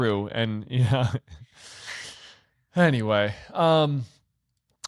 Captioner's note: chuckles